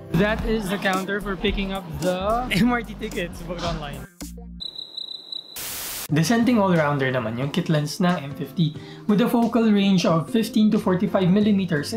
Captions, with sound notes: That is the counter for picking up the... MRT tickets booked online. (cricket sound) (static sound) The Canon M50's kit lens is a decent all-rounder. With a focal range of 15-45mm,